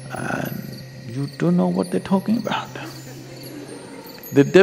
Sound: laughter

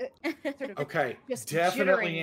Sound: laughing

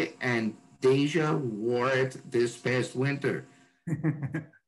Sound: Jon laughs

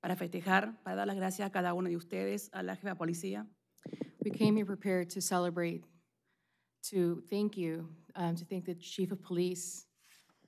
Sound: speaking spanish

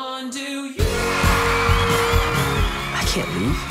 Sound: crowd cheering

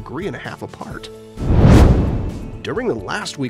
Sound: meteor swishes

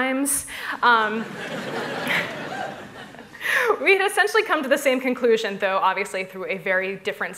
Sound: laughter

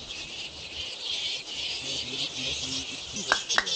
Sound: loud bat chattering; clapping

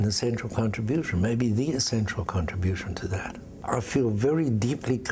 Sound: none

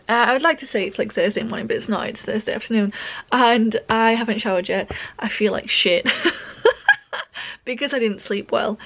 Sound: laughs

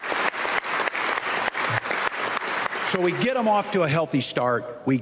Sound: applause

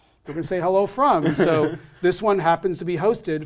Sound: laugh

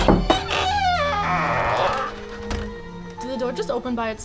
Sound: knock on door; hinges creak

